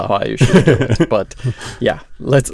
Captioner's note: laughs